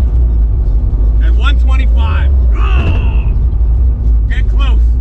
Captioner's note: groans